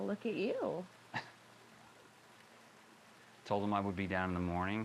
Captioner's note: John chuckles